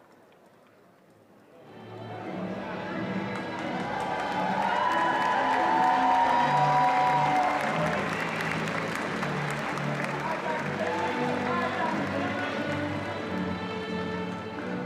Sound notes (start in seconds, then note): 3.9 attendees applauding and cheering